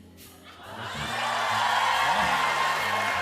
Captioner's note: cheers and applause